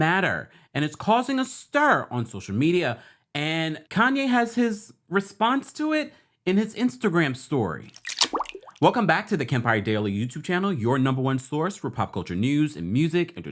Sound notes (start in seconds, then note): 7.8 water splashing